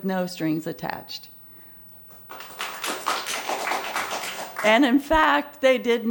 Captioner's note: applause